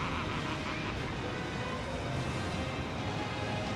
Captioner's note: laughs